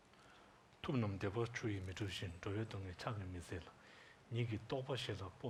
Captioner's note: speaking tibetan language